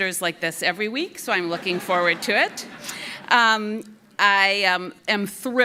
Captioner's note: audience laughing